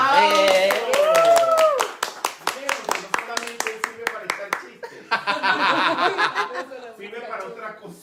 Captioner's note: laughing